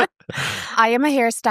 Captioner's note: both laugh